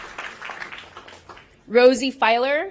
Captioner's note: applause